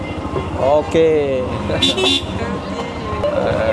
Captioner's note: laugh